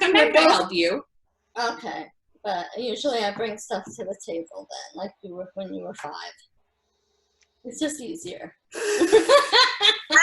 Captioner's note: laughter